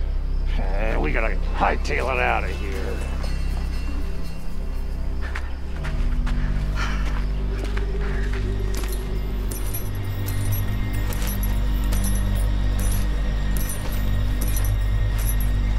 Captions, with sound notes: We gotta high tail on outta here. (dramatic music) (shoes clanking)